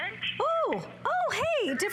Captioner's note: electronic voice